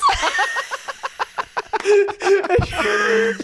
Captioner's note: laughing